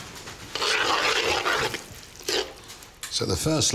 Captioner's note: spoon stirring